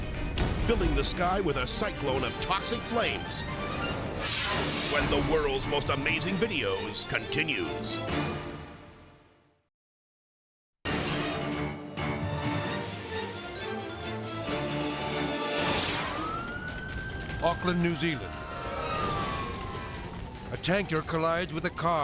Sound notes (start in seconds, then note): 4.1 graphics whooshing; 10.6 thrilling music; 15.0 graphics whooshing; 15.1 siren blaring